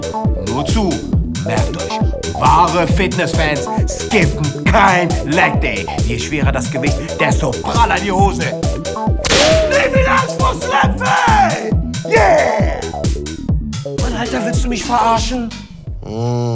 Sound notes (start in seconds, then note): 8.8 screams